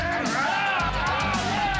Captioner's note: crowd cheering; crowd chatter